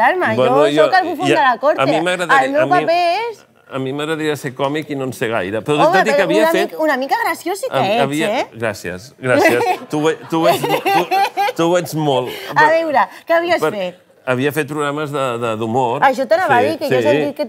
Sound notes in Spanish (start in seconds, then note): 9.4 risas